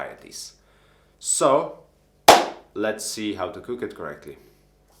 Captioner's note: clap